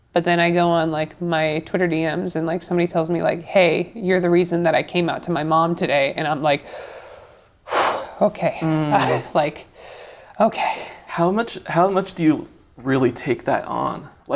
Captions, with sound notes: But then I go on my Twitter DMs and somebody tells me, like, "Hey, you're the reason that I came out to my mom today." And I'm like, (exhales heavily) okay. Like, okay. - How much do you really take that on?